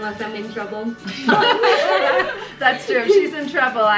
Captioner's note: all laugh